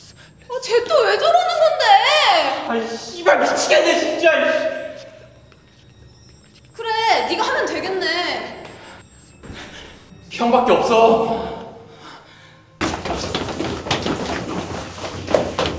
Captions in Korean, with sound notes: 아, 쟤 또 왜 저러는 건데?! X발, 미치겠네 진짜! 그래 네가 하면 되겠네 형 밖에 없어 [격렬한 발자국 소리]